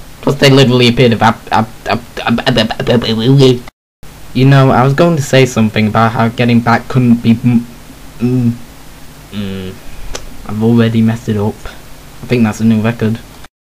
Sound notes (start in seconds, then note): 2.1 weird noises...possibly alien; 9.7 sigh